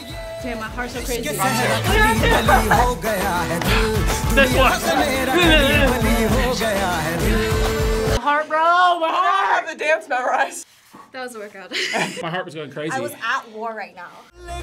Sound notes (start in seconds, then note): 1.2 laughs; 5.4 upbeat music; 11.7 laughs